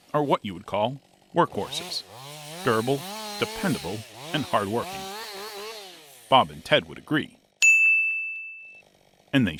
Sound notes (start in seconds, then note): 5.0 chainsaw buzzing; 7.6 bell ringing